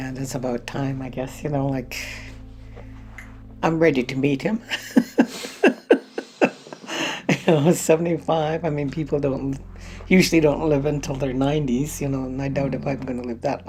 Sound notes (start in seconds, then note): 4.8 laughs